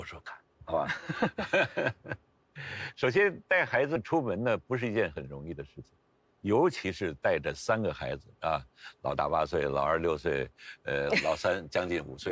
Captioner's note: laughs